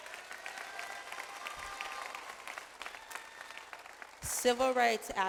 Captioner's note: audience applauds